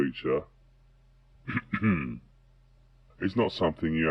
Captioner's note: clears throat